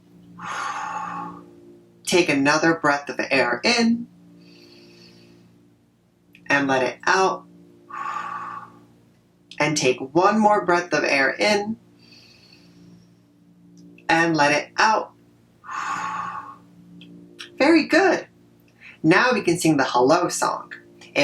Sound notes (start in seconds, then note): 0.4 exhale; 4.4 inhale; 7.8 exhale; 12.0 inhale; 15.6 exhale